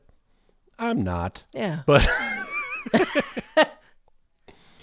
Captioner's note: laughing